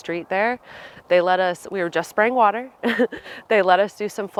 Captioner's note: laughing